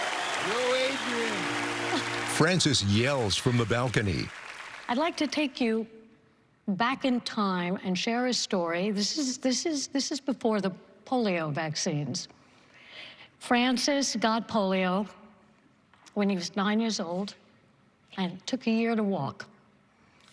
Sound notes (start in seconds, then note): 2.7 laughs